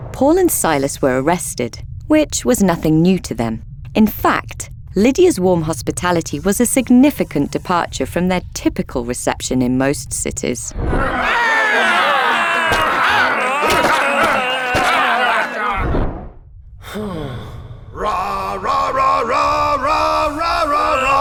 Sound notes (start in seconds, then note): 10.9 crowd yelling angrily; 10.9 Paul and Silas screaming; 16.9 Silas sighing; 17.0 roaring hymns